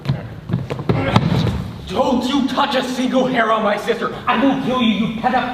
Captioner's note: grunts